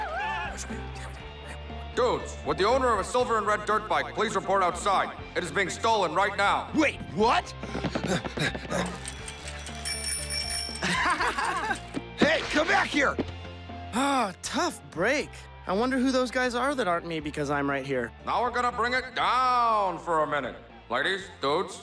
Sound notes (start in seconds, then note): 1.0 whispering